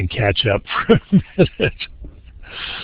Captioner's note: chuckles